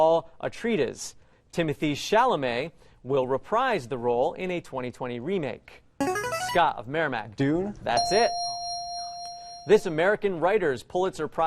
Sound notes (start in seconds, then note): 5.2 player buzzer; 7.9 ding